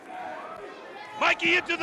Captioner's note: crowd cheering